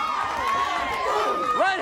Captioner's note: crowd cheering